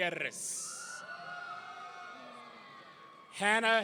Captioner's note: audience cheering